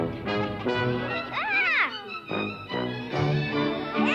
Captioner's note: upbeat music; Oblio yells